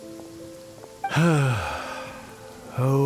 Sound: sigh

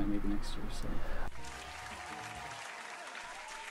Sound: cheering

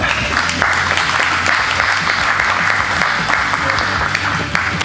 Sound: spectators applauding

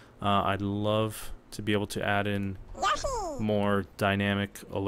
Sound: Yoshi noise

